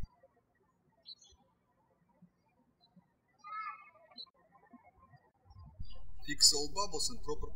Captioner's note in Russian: птички щебечут